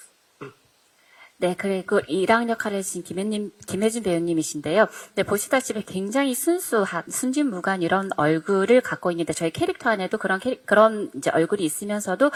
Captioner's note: translating in Korean